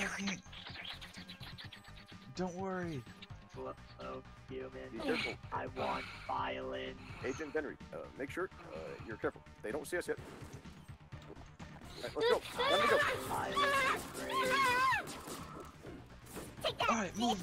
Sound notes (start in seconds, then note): 5.8 Pepsi Man gasps, breaking the stream of cola from can to stomach; 12.5 high pitched screams escape Pepsi Man